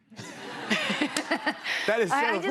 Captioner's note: laughter